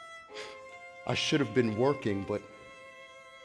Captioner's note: laughs